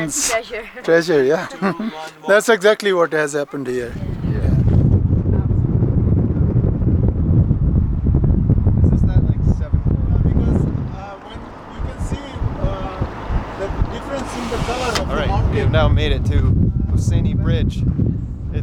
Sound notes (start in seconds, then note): 4.9 people chattering; 4.9 wind rustling